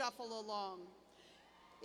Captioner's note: cheers